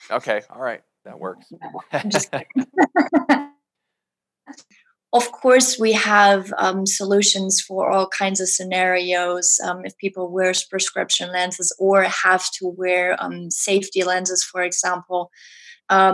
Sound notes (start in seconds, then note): 1.9 both laugh